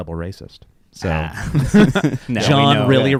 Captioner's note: laughing